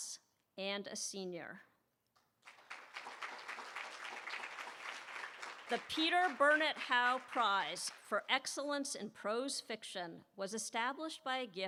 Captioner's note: applause